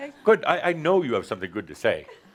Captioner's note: laughter